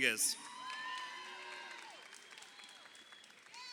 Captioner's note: crowd cheering